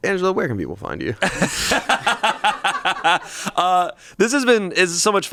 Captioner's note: everyone laughs